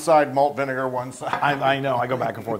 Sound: laugh

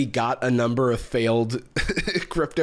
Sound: laughs

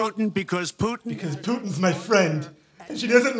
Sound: in mock Trump voice

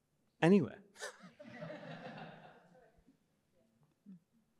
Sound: laughter

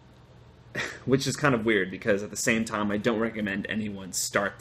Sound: laughter

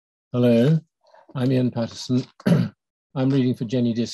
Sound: clears throat

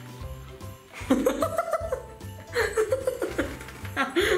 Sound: laughing

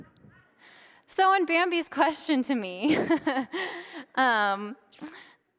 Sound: laughs

